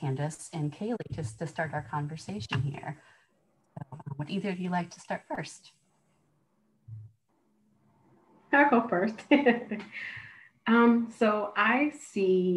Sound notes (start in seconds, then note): 9.1 laughter